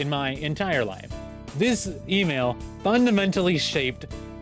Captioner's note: none